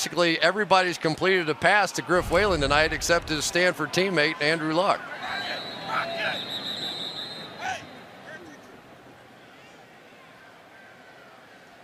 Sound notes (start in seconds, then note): 5.2 whistle